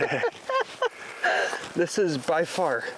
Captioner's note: laughing